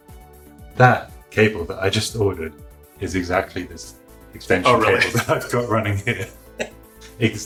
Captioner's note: laughing